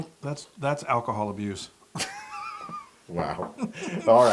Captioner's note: laugh